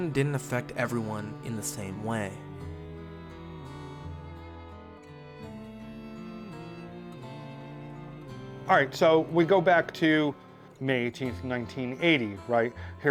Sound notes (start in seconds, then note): 3.0 melancholic guitar music; 3.0 singer humming